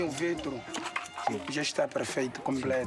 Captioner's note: Portuguese spoken audio